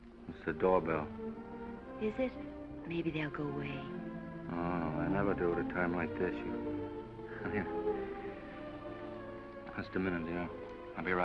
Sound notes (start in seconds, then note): 7.3 chuckles